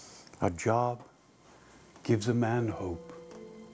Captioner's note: none